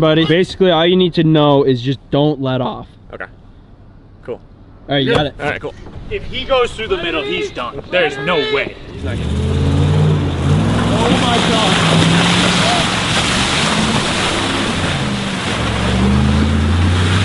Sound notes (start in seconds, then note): 10.9 engine revving; 13.2 splashing